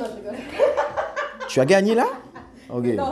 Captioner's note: Rires